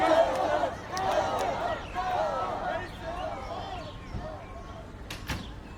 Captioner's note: birds chirping